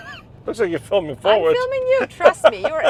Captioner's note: laughs